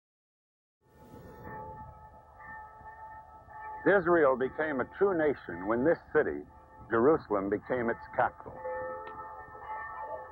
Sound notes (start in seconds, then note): 1.5 bells ringing; 10.0 bells ringing